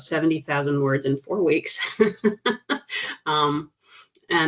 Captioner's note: chuckling